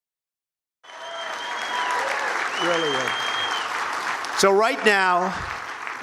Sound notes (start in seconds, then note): 0.8 crowd cheering